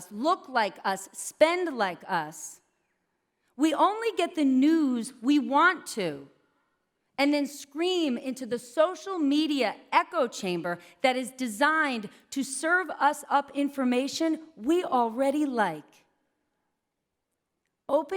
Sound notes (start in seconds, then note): none